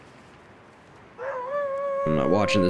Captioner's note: wolf Howls